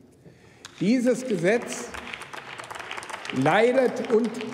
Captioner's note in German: Beifall beim BÜNDNIS 90/DIE GRÜNEN sowie bei Abgeordneten der LINKEN